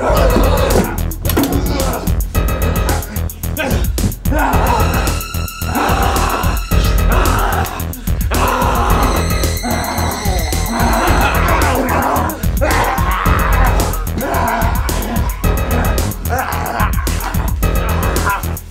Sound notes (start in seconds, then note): 0.1 Dr. Richards and Ricky screaming and grunting; 5.6 Dr. Richards growling; 11.2 Jermaine and Dr. Richards growling